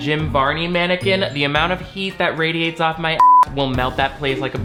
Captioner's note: beep